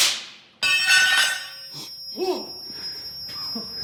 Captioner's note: metal clamoring; ringing; banging; laughing